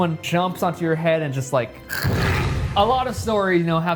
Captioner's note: crunching